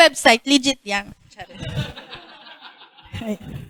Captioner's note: laughter